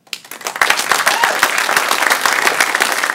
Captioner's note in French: Applaudissements